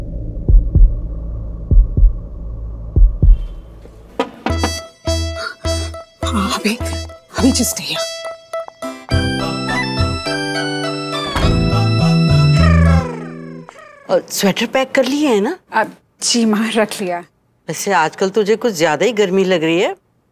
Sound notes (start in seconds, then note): 4.2 door knocking; 11.1 door opens